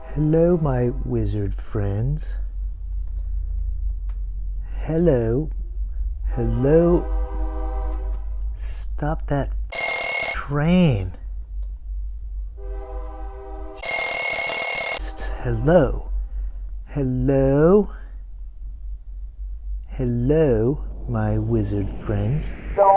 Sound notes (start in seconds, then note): 6.3 train horn blows; 9.7 phone rings; 12.6 train horn blows; 13.8 phone rings